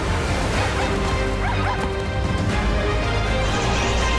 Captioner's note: water splashing; zebras yelping; birds chirping